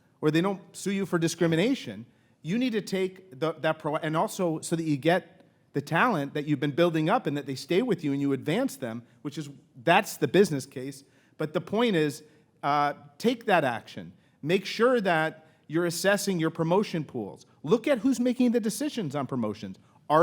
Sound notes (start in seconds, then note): none